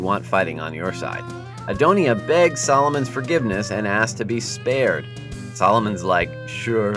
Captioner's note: Adonijah begging